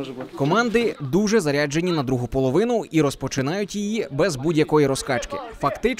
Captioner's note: voiceover